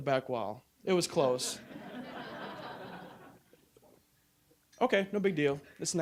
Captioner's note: audience laughing